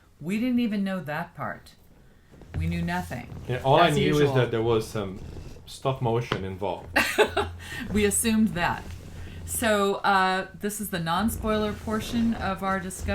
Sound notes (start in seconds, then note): 7.0 laughs